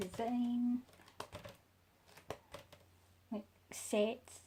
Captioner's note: flipping through pages